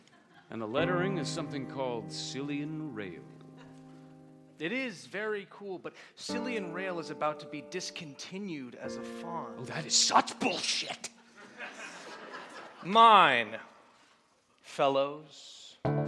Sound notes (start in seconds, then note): 11.2 laughter